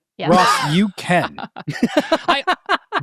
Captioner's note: participants laughing